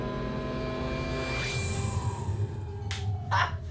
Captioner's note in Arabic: صوت متأرجح